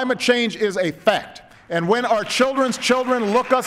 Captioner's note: applause